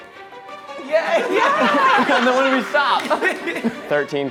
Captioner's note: everyone laughing